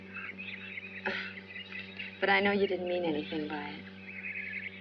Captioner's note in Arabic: يضحك